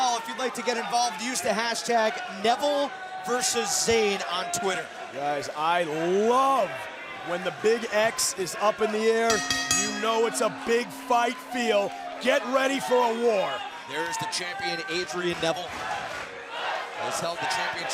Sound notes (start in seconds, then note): 9.2 bell ringing